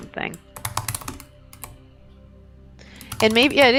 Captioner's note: keyboard typing